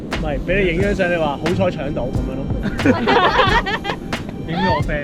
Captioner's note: laughs